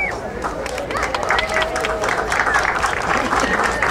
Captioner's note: crowd applauding